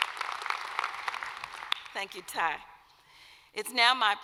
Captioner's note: applause